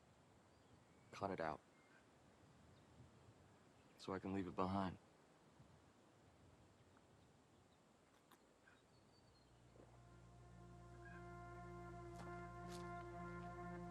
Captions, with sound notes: Cut it out. So I can leave it behind. (birds chirping) (gentle music)